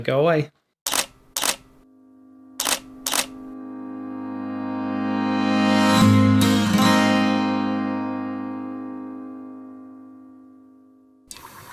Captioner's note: camera shutter sounds and music swells